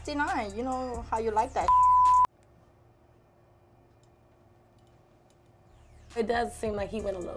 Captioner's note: beep